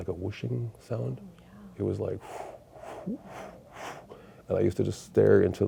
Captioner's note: pulsing breaths